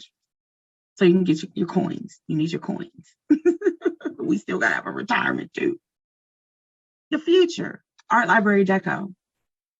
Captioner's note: chuckles